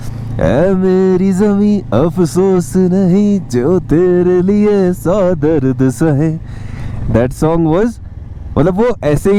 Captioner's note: hums the song